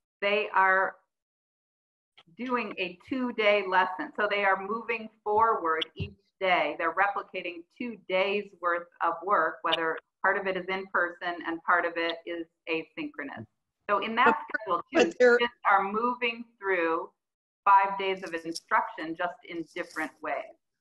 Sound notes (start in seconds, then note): 14.0 audio distorts